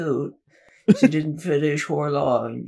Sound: chuckles

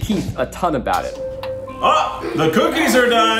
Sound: beeping sound in the background

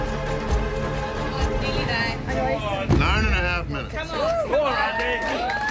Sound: crowd

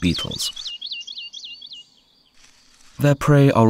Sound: sounds of nature

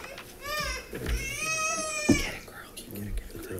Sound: child crying

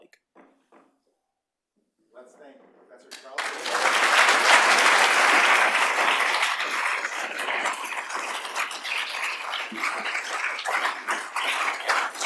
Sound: applause

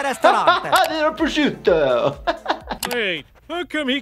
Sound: laughs

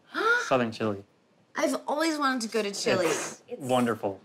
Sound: gasps

